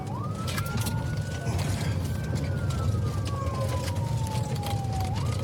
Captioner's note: siren wailing